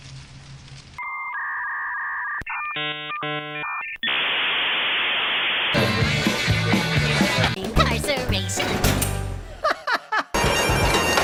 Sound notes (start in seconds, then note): 1.0 dial up noises; 5.7 ending song